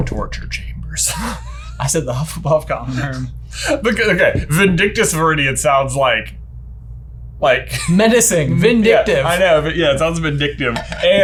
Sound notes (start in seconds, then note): 1.0 laughs